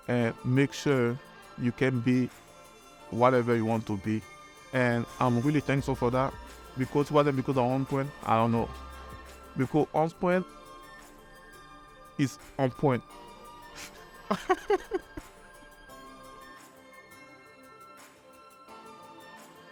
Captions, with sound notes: and make sure you can be whatever you want to be. And I'm really thankful for that because, without On Point, I don't know. Because On Point is on point (laughs). (lighthearted music)